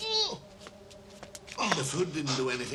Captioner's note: groans